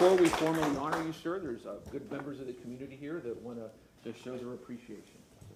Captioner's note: applause